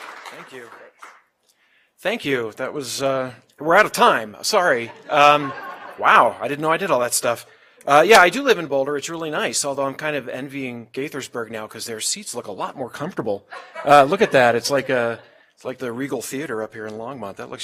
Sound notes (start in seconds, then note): 0.0 applause; 13.5 laugh